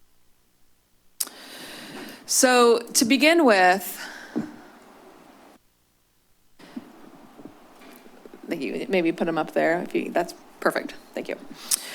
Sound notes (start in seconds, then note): 0.9 clucks; 11.7 clucks